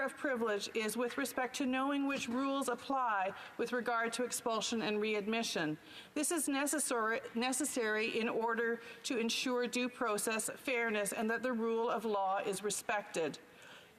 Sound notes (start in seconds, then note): none